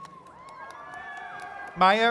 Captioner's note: attendees cheering